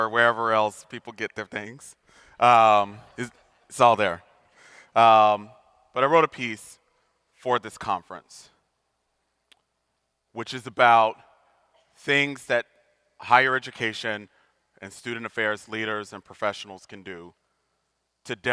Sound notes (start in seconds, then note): 3.0 audience laughing